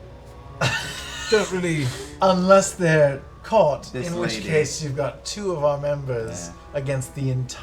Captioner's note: laughs